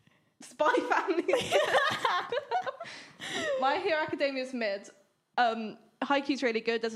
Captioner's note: both laughing